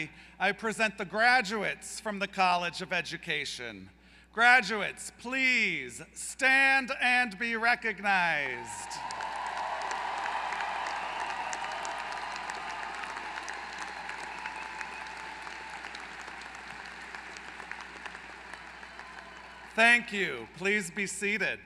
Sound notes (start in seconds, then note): 8.9 applause